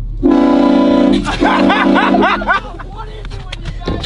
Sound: train horn blows; laughing

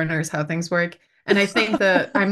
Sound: laughs

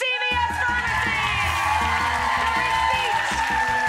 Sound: audience cheering; upbeat jazzy music

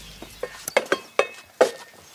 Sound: metal clanking

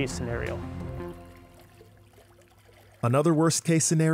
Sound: water swooshing

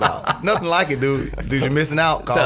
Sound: laughs

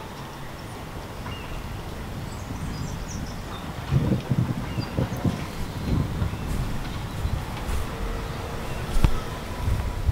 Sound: thunder

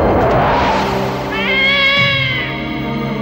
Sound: cat yowling

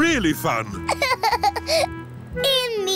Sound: laughs

